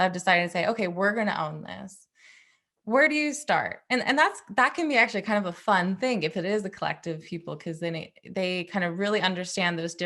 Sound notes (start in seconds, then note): none